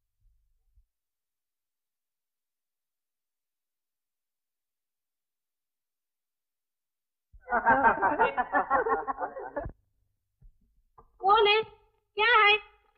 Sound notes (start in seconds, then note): 7.4 laughs